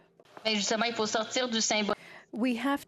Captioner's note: speaking French